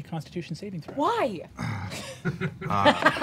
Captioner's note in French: grogne; rires